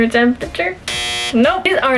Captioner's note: buzzer